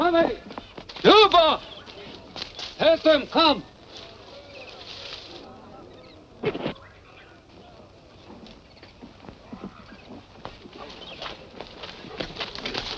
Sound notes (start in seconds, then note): 0.0 foot steps; 4.8 birds chirping